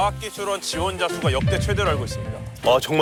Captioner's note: A big Surge